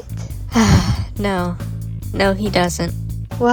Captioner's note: sigh